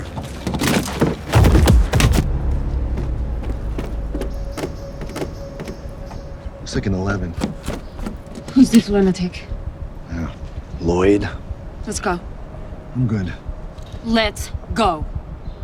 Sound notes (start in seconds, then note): 2.9 body thuds